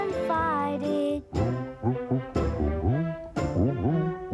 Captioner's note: elliott humming